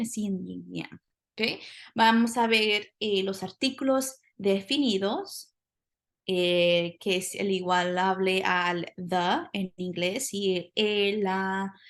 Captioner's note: speaking spanish